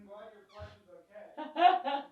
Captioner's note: laughs